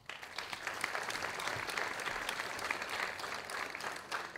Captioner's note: audience applauding